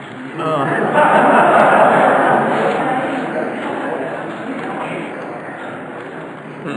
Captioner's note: audience laughter